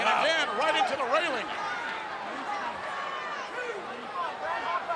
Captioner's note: crowd yelling